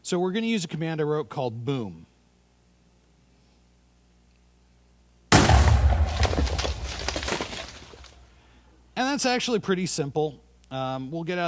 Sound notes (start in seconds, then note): 5.3 loud bang